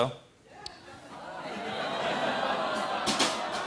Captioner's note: audience groans; drumming